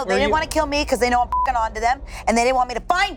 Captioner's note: beep